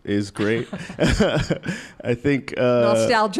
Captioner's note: laughs